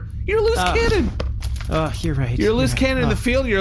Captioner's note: sighs